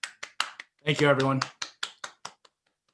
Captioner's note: clapping